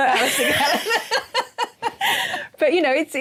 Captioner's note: laughter